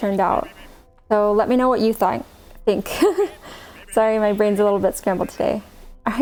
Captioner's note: laughs